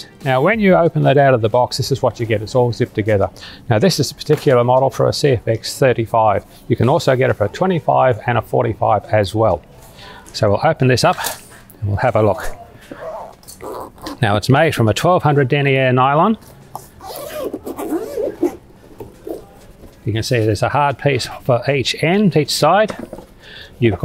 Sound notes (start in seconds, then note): 16.9 zipper unzips